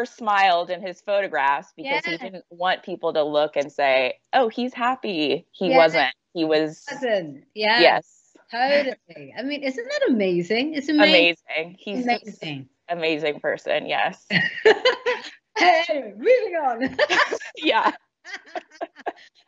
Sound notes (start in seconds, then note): 14.3 laughs; 16.8 both laughing